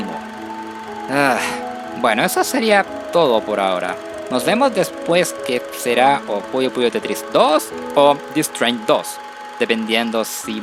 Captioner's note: sigh